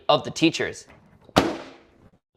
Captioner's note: microwave door slams